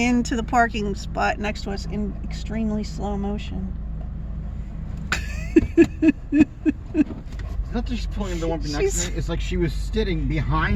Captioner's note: laughing